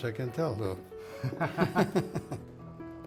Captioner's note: both laugh